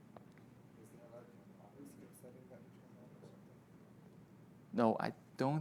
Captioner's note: staff chattering